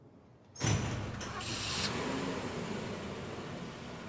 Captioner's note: engine starting